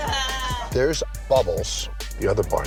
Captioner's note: laughs